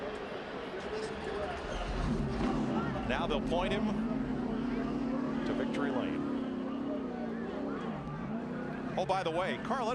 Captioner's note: cheering